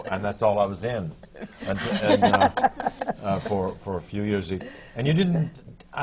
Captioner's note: laughter